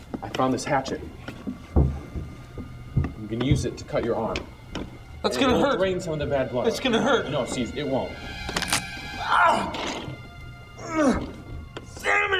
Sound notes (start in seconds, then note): 0.0 dramatic music; 8.1 Ciez yells; 8.5 bones crunching